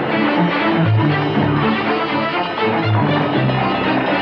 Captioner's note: horses Galloping